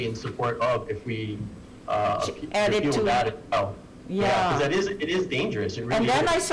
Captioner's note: talking in unison